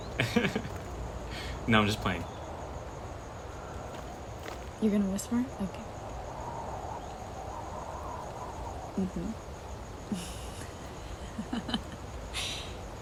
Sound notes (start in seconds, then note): 0.0 laughs; 6.6 insects chirping; 6.6 wind whooshing; 11.2 Mae laughing